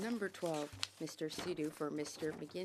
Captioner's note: speaking French